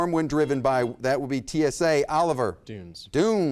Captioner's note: buzzer beeps